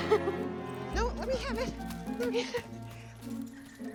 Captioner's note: laughing